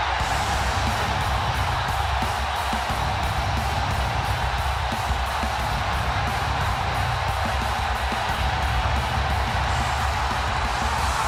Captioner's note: crowd cheering